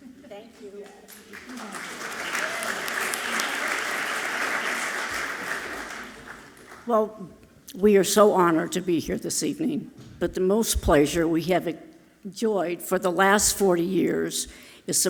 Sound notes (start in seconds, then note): 0.6 audience clapping loudly